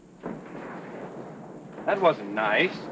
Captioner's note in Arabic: مسارات القطار تنقر